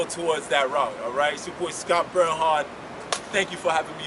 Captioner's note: claps hands